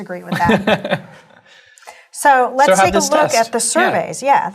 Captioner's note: laugh